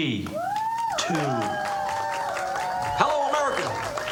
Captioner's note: audience applauding, cheering